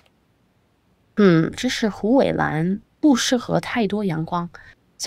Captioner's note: speaking chinese